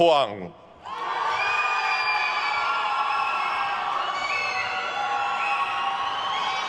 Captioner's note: attendees cheering and applauding